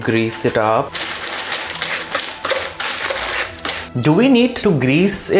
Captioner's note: paper rustling